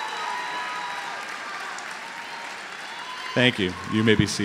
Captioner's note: applause